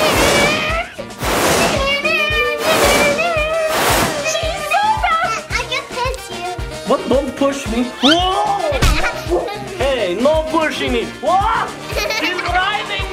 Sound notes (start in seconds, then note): 1.1 air whooshing; 8.0 audio whistles; 8.0 laughs; 8.8 thuds; 11.8 laughing